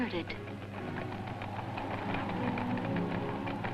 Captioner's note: wind gusting